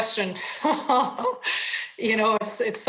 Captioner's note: laughs